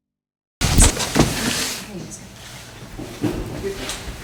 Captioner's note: microphone shuffling